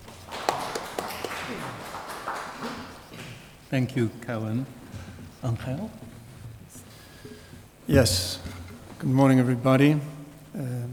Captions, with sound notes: (audience applauds) - Thank you, Kai-wen. Angel. - Yes, good morning everybody.